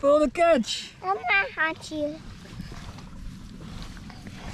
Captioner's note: babbling